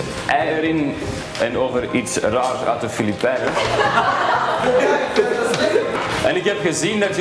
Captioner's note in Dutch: klas lacht